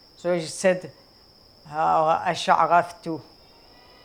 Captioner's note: Arabic